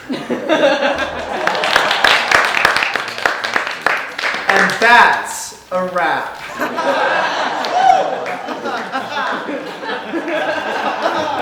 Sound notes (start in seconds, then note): 0.0 audience laughing and applauding; 6.4 audience laughing